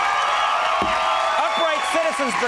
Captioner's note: audience cheers